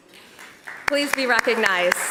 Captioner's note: applause